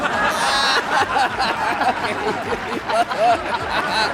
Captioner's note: laughter